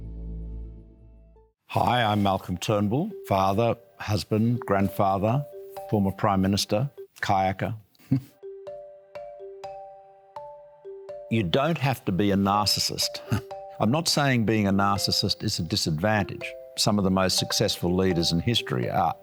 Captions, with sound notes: Hi, I'm Malcolm Turnbull. Father, husband, grandfather, former prime minister, kayaker. (LAUGHS) You don't have to be a narcissist. I'm not saying being a narcissist is a disadvantage, some of the most successful leaders in history are,